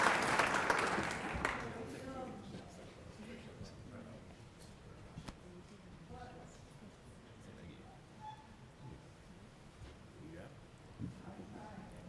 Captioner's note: cheering and applause